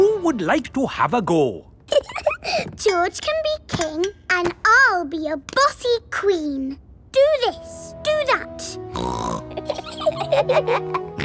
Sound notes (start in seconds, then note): 1.9 giggles; 8.9 snorts; 9.4 both giggle